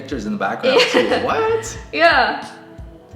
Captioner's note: laughs